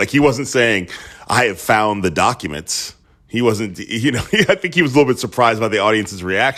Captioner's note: laughter